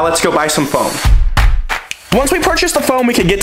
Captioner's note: rhythmic clapping